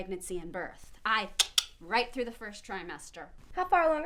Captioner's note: clicking tongue/imaginary remote